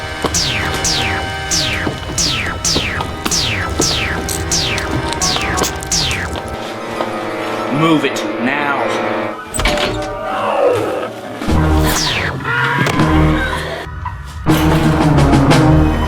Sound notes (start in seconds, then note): 10.1 growls; 12.3 screams